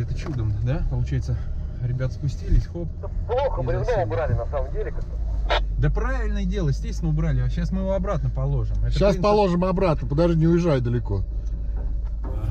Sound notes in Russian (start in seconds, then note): 8.9 говорит в рацию